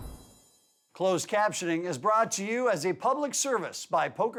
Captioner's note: voiceover